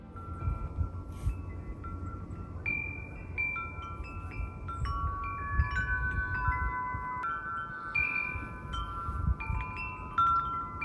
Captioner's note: wind Chimes